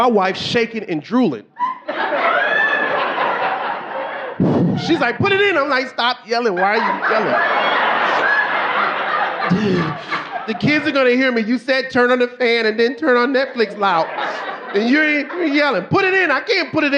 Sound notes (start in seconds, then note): 1.6 audience laughing; 8.7 audience laughing; 9.5 gasping